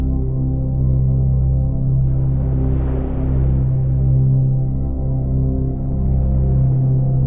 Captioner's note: gentle calm music continues; waves rustling